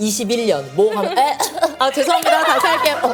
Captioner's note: cough